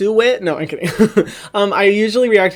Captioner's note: laughs